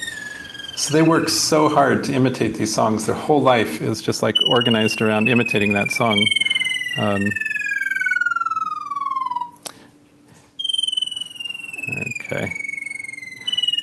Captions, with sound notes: So they work so hard to imitate these songs. Their whole life is just organized around imitating that song. [BIRD SONG] OK.